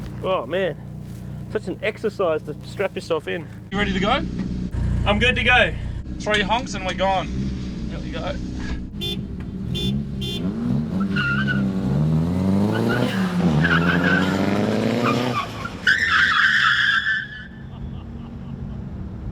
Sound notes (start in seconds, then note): 8.4 honking; 17.5 laughter